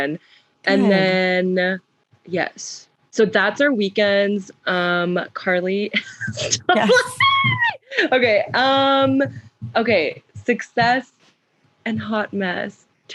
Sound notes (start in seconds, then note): 6.2 laughs; 8.1 squeals